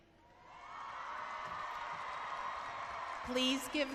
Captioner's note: cheering